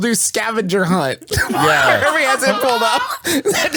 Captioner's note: laughs